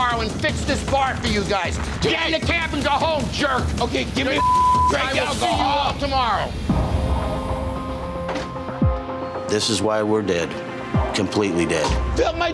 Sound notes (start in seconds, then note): 4.3 beep; 6.8 pensive music